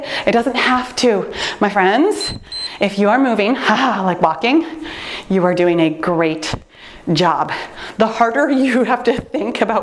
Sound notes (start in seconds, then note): 2.1 timer beeps